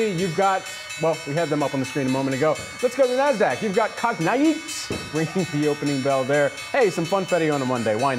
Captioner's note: bell ringing